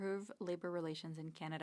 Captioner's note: speaking French